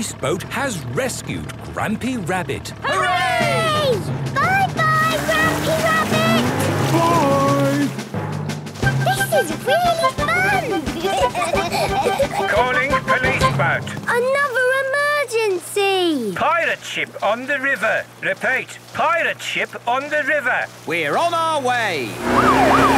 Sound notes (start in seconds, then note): 11.6 children giggling; 13.2 voice over radio